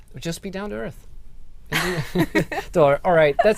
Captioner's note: laughter